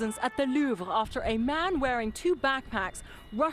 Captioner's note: sirens